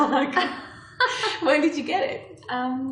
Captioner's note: laughs